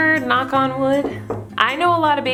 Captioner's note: taps on wooden floor